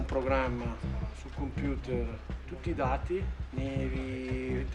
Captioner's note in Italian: parla in italiano